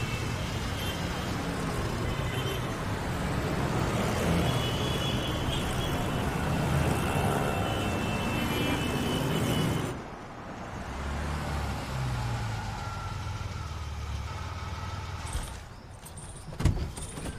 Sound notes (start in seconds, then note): 14.6 engine stops